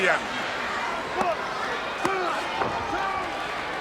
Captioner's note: countdown thudding